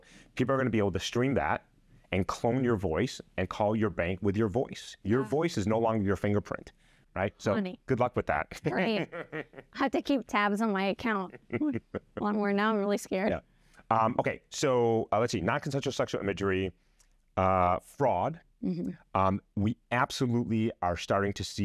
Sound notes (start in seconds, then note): 8.5 laughter